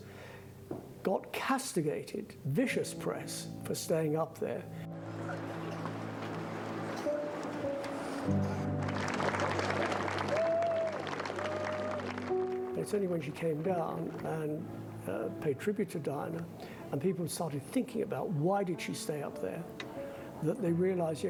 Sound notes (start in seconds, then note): 8.5 applause